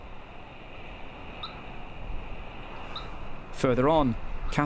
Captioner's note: radio chirps